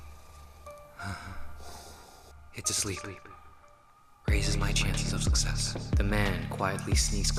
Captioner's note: sighs